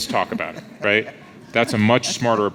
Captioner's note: laughs